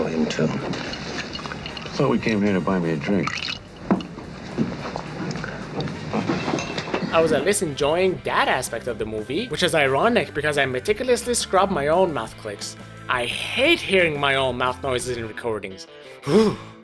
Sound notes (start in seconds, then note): 4.7 glass clink; 7.0 glass clinking intensifies